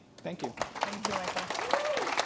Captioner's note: applause